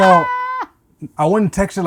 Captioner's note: laughing